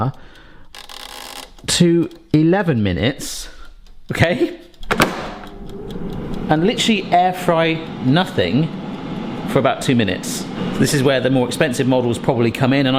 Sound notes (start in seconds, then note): 0.1 button clicking; 4.8 tray banging; 5.3 air fryer whirring